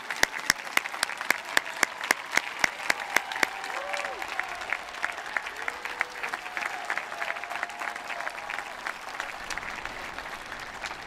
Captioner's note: applause